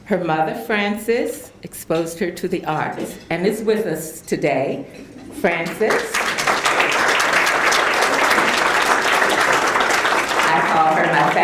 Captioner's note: applause